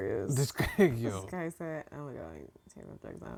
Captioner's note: mumbles